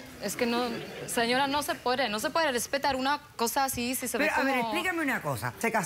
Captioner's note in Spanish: Risas